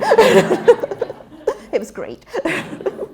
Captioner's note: interruption: laughter